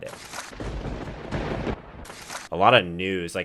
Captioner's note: thunder rumbling